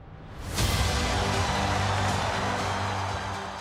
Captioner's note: crowd cheers